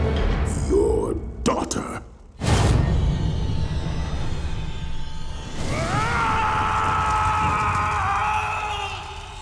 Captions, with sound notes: Your daughter. [screaming]